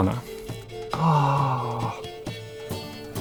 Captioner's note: gasps